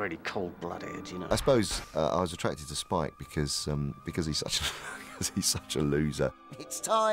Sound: laughs

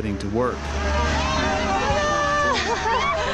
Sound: farmers cheering

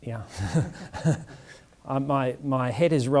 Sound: laughs

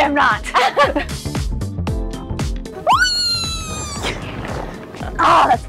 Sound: fun, upbeat music; giggles; screeches happily

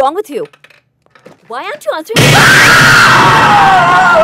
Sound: Simran Screaming

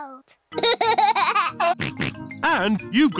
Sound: laughs and snorts

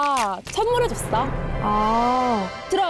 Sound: house-receiving SE

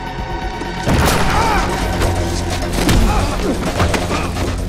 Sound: grunting; screams

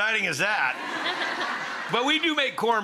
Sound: audience laughing

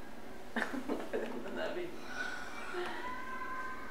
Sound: laughs

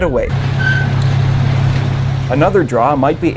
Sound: nat-train passing

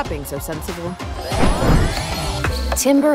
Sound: air whooshing

